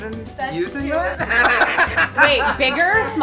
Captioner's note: loud laughter